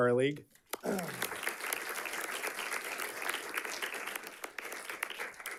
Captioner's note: audience clapping